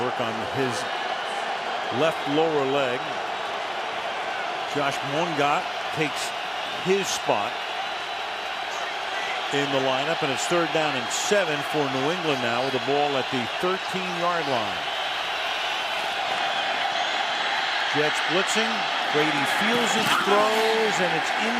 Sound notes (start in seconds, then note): 17.7 cheering